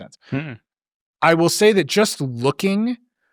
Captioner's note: humming in disagreement